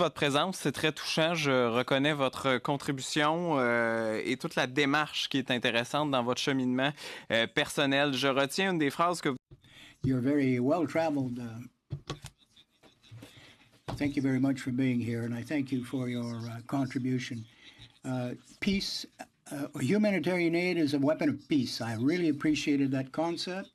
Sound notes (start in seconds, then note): 5.9 speaking in French